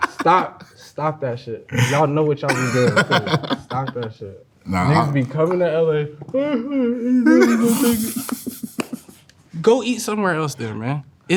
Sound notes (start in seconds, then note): 0.0 laughs; 4.6 grumbles; 7.1 laughing